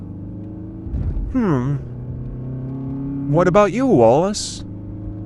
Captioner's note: hums